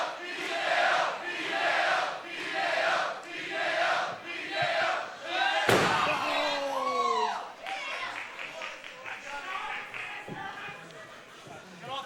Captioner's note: fans chanting